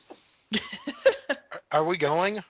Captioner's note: giggles